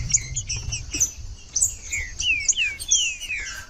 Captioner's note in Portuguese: trinca ferro cantando